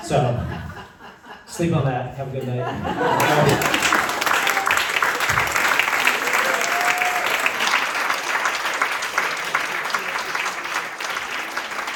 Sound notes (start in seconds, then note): 3.0 applause--Somewhere Above Medium